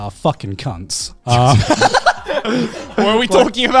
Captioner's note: all laughing quickly